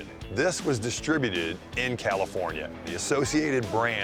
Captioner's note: none